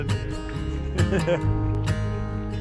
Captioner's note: more laughs